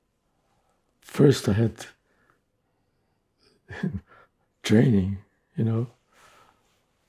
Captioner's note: laughing